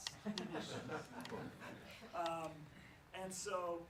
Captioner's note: laughs